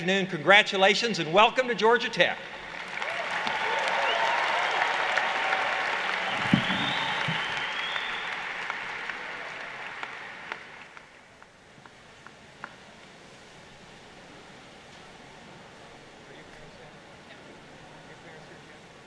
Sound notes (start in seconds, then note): 2.4 applause